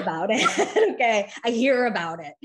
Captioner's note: chuckles